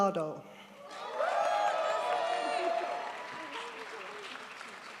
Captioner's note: crowd applauds